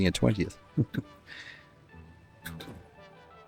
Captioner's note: chuckles